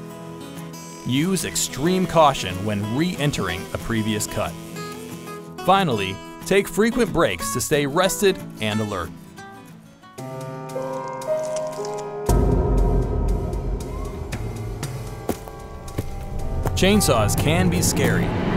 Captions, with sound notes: Use extreme caution when re-entering a previous cut. Finally, take frequent breaks to stay rested and alert. [branches creaking] [footsteps] Chainsaws can be scary,